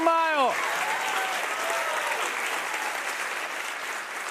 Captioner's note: cheers and applause